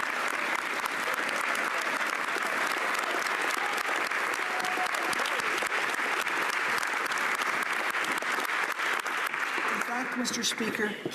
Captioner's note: applause